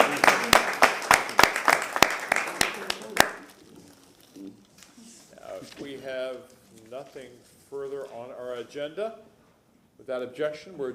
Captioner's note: applause